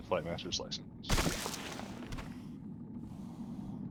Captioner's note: gun firing